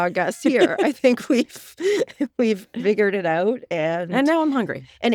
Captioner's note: laughing